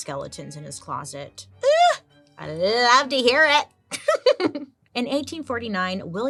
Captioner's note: laughs